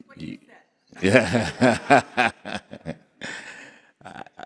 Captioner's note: laughing